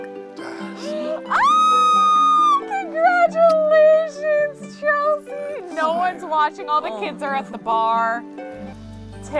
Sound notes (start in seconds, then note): 0.8 squeals